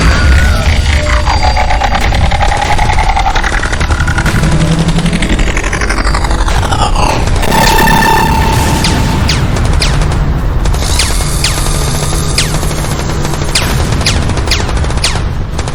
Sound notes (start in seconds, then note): 0.1 explosions booming; 0.1 man screaming; 7.8 explosions booming; 7.8 lasers blasting